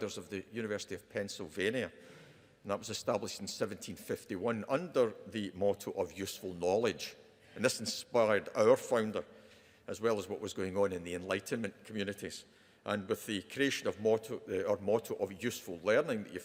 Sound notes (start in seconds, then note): none